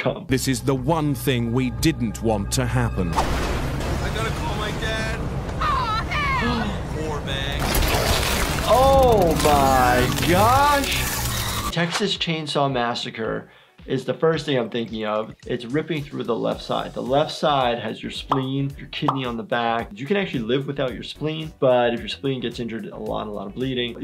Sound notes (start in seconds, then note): 8.2 chainsaw rattling